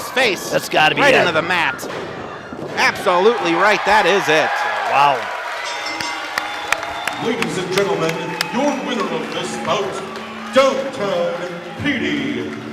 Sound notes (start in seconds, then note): 4.5 crowd cheers; 5.5 bell rings; 7.4 audience applauds and cheers